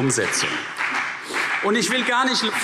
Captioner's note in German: Beifall CDU und BÜNDNIS 90/DIE GRÜNEN